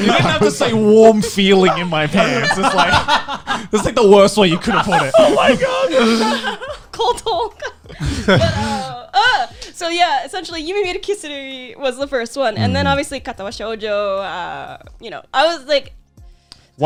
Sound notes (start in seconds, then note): 0.0 laughing; 4.9 laughing; 10.8 foreign language